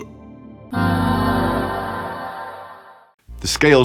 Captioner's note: ahh sound